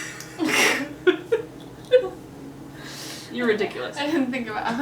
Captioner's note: laughs